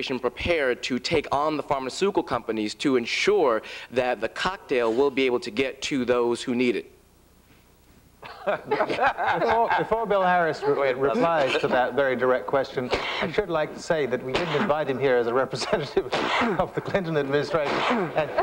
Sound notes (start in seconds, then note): 8.2 laughter